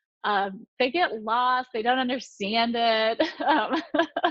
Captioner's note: laughing